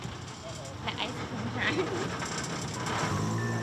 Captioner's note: laughs; ice-cream truck music